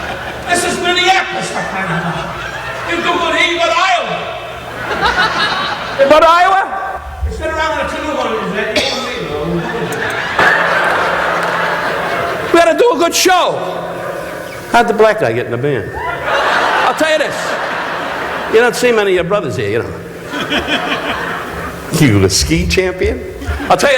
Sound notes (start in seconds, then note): 4.4 audience laughing; 9.0 audience laughing